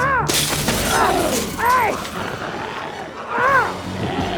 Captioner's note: glass shatters; screams; Tector screaming